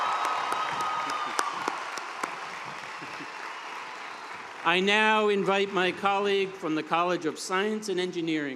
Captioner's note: cheers and applause